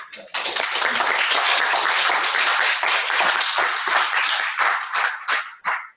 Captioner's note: clapping